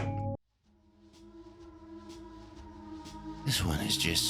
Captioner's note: mysterious ominous noises